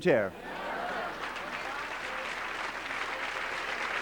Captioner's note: applause